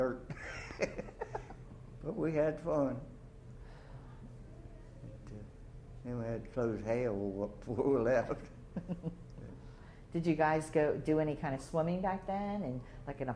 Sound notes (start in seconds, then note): 0.3 chuckles